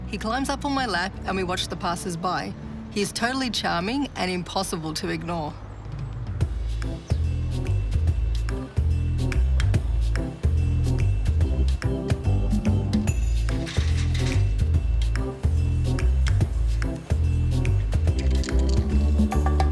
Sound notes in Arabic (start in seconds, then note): 6.6 موسيقى إيقاعية; 13.6 صوت خشخشة السلم